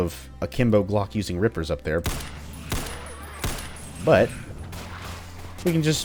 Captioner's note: bang! bang! bang!